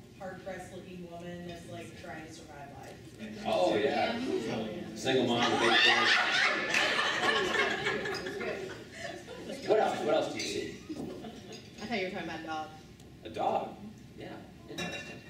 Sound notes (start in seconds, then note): 5.3 laughing